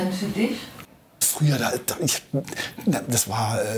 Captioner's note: stuttering